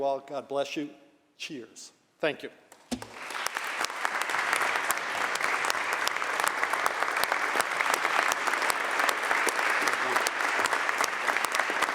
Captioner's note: applause